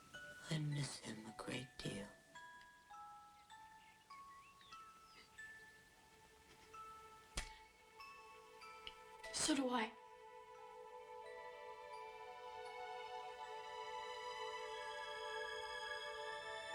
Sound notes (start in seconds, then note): none